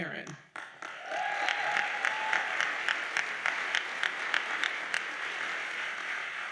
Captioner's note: audience cheers and applauds